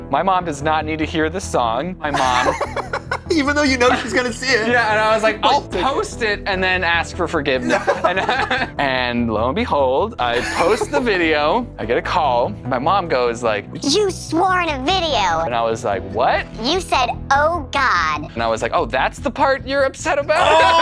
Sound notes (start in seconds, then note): 2.1 laughs; 7.6 laughter